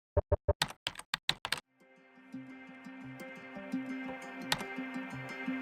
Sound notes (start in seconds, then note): 0.6 typing sounds